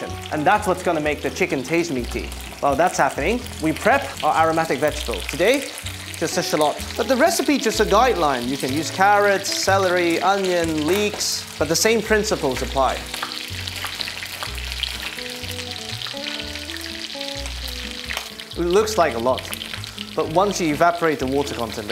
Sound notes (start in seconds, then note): 15.5 sizzling sound